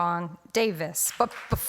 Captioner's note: applause